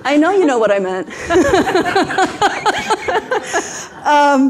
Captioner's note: everyone laughs